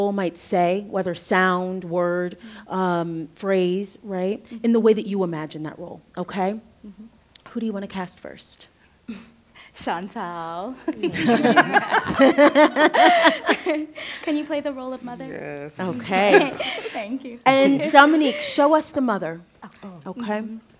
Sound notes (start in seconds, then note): 9.9 amused breath; 10.8 laughter; 16.0 laughter